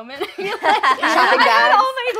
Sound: laughing

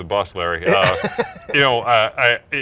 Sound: laughs

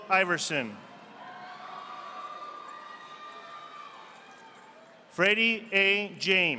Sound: audience applauding

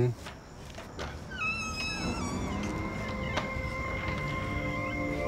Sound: door creaking

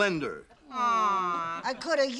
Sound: women groan

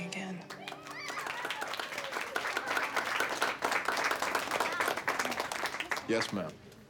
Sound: applause

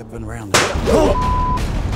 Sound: loud bang

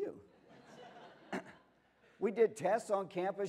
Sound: laughter

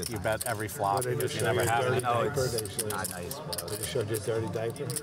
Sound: table chatter

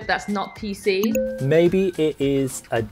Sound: bell dinging

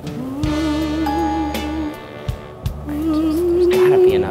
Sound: romantic music; dings

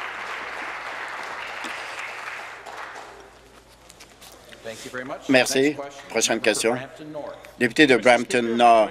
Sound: applause

